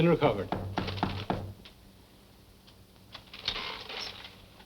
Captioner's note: knocking